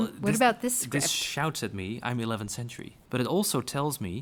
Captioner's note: voiceover